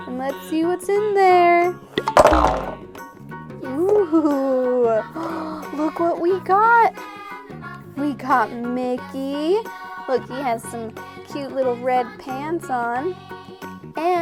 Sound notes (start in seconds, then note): 2.0 loud clunk